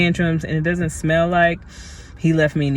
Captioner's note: sniff